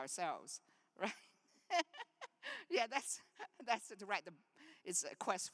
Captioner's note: laughs